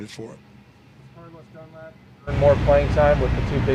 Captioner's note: male Voice